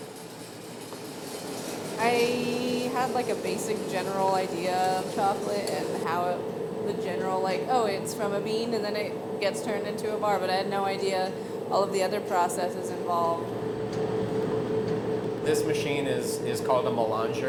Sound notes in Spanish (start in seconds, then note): 3.6 granos sonando; 3.6 máquina zumbando